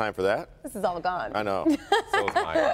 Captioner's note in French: laughter